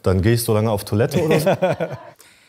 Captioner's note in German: Lachen